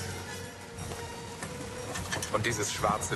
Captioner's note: galley creaking